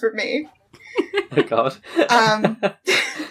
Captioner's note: laughs